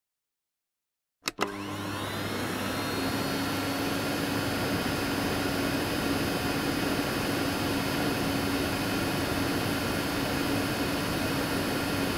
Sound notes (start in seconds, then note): 1.2 sound of vacuum